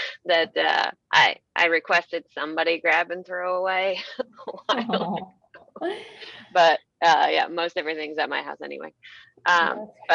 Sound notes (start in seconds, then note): 4.6 laughs